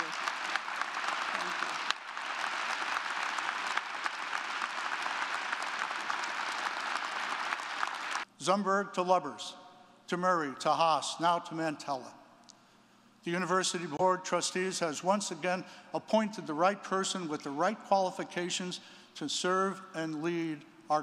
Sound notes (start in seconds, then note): 0.2 audience clapping